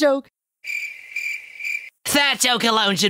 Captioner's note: crickets chirping